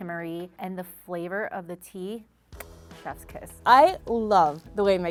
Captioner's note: kisses